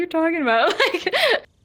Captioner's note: laughing